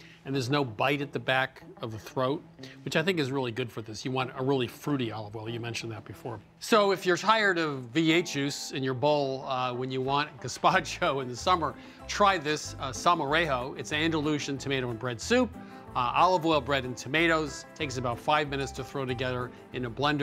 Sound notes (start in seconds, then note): none